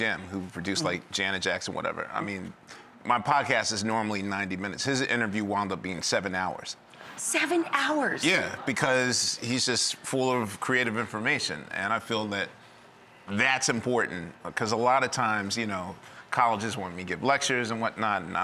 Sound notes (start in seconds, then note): none